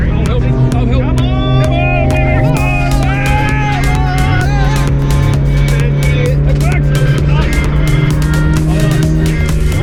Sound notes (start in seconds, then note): 3.1 screams; 6.2 upbeat electronic music